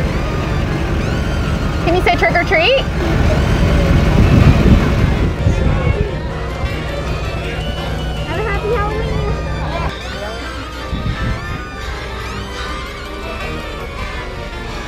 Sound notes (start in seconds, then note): 4.2 engine roaring; 9.7 creepy music; 11.1 children In Costumes, Cars Driving Through